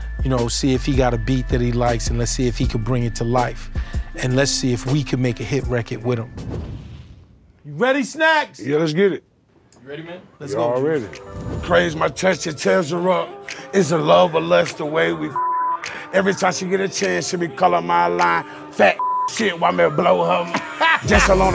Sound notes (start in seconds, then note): 15.4 beep